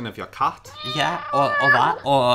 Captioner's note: cat meowing